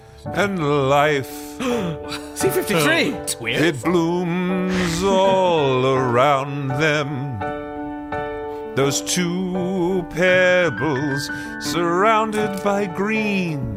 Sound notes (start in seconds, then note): 0.0 singing; 1.6 gasps; 4.8 laughs